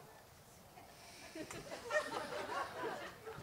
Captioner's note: laughter